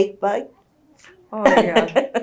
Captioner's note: laughs